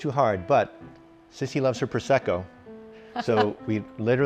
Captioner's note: laughs